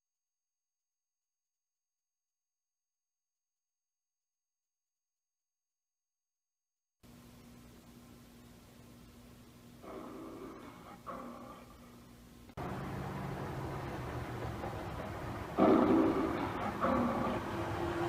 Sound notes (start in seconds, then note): 9.8 Leo the Lion roaring on television; 15.4 Leo the Lion roaring on TV